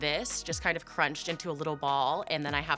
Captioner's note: none